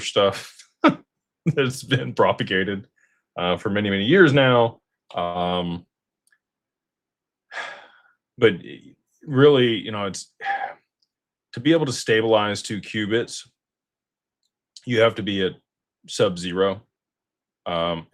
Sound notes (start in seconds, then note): 7.5 sighs and gasps